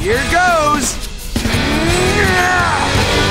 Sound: grunting

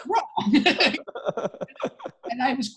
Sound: laughing

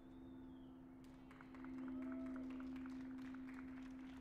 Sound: cheers and applause

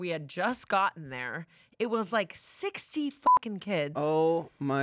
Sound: beep

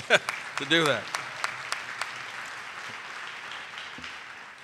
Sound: audience applauding

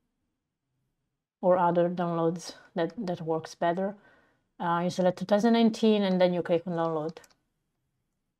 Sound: click on

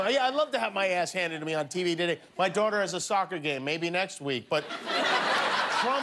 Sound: laughter

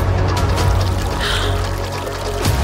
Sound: Raya gasps

